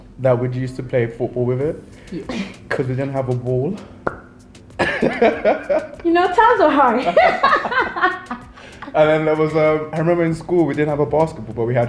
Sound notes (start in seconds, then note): 4.8 laughing loudly; 4.8 laughing